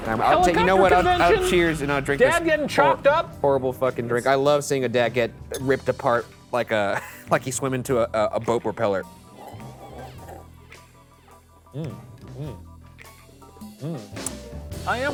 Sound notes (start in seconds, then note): 9.3 sipping; 11.7 humming; 11.9 jaunty music